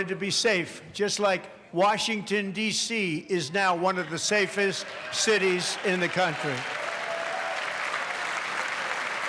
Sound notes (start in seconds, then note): 4.9 applause